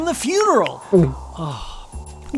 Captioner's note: gulp